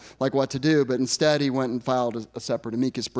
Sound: none

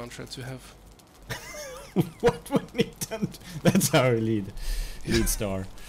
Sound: laughs

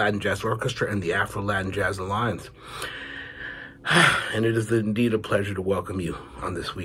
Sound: sighs

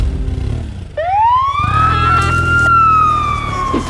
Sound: engine and siren

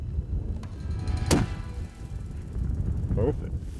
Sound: gunshot

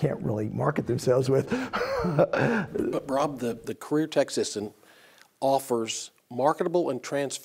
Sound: laugh

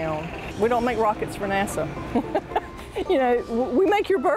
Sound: laughs

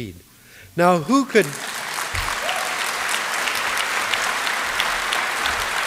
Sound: applause

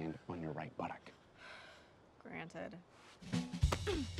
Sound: Bea sighs

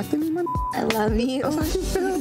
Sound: beep

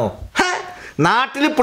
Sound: scoffs

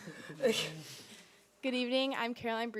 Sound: people laughing

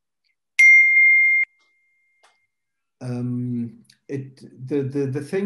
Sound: electronic chiming

